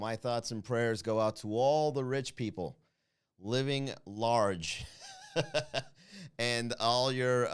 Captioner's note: laugh